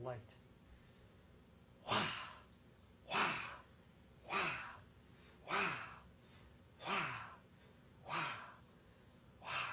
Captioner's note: inhales and exhales five times